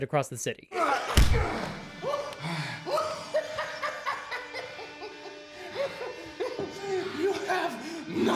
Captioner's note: laughs